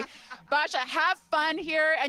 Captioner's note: laughter